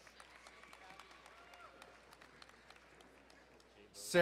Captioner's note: crowd cheering and applauding